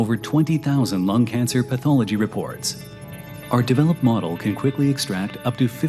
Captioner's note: none